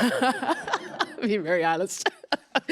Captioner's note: laughs